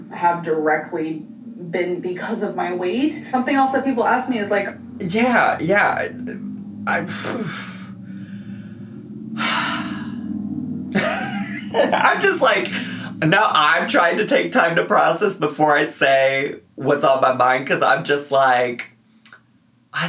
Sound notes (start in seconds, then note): 7.2 sighs; 10.9 laughs